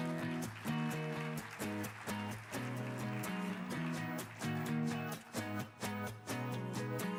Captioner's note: audience applauding; upbeat music